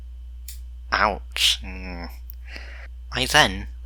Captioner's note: audible disgust